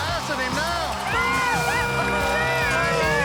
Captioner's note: yelling